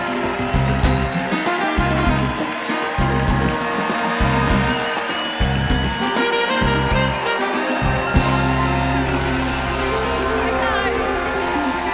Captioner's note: cheers and applause